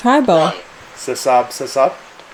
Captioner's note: automated Voice